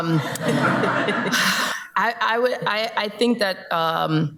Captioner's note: everybody laughs